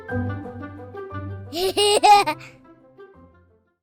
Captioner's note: laughter